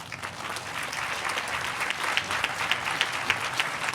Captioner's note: audience applauding